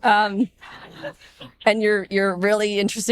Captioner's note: audience laughing